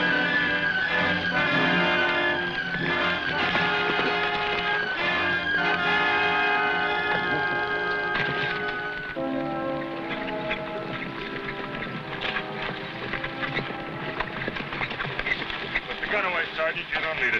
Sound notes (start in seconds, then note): 3.4 horse hooves pattering